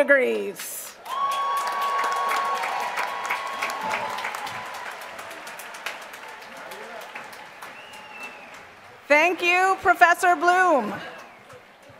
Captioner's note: applause